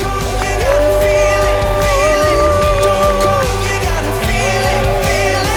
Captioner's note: cheering